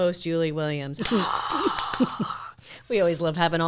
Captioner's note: applauds